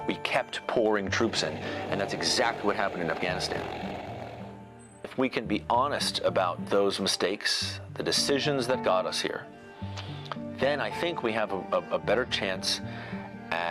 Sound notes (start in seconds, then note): 3.7 rotor blades whir